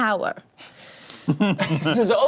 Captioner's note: laughs